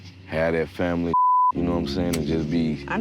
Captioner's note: crickets chirping; warm sentimental music